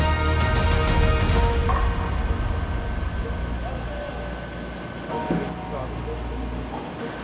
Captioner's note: tense music; people chattering